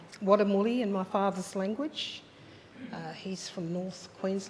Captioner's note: speaks in foreign language